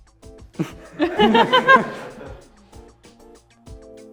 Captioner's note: laughter